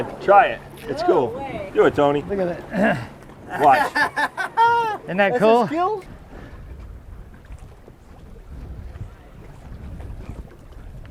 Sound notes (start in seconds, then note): 5.1 laughs